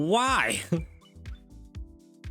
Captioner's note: chuckles